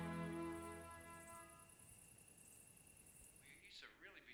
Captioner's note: insects chirping